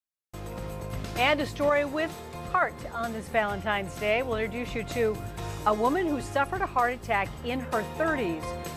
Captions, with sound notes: (upbeat piano music) - [Voiceover] And a story with heart on this Valentine's Day. We'll introduce you to a woman who suffered a heart attack in her 30s,